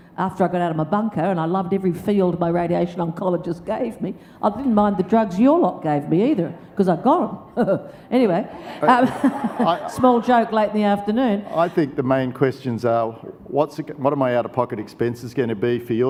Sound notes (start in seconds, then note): 8.3 audience laughs; 8.3 laughs